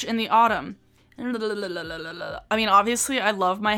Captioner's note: silly babbling noise